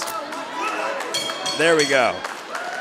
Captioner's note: bell ringing